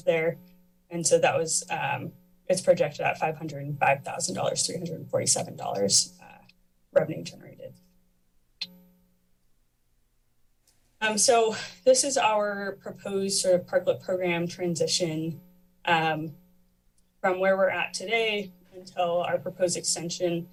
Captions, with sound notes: there. And so, it's projected at $505,347 revenue generated. [pause] So, this is our proposed parklet program transition from where we're at today until our proposed extension